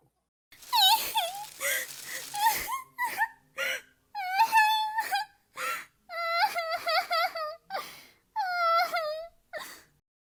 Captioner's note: Stardust crying